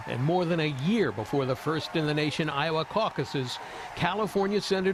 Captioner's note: applause